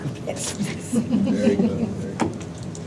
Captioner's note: laughter